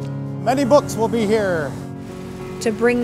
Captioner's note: drilling